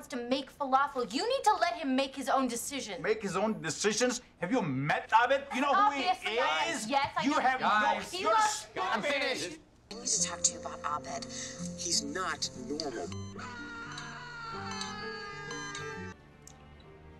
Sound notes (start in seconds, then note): 13.4 ABED screaming and heartbeat monitor noises